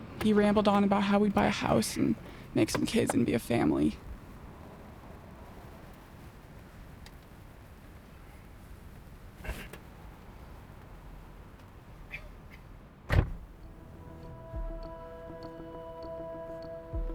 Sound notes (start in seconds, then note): 13.1 door shutting; 13.5 gentle music